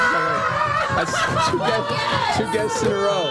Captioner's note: cheering